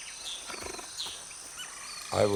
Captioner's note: purring